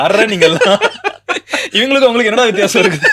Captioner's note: laughter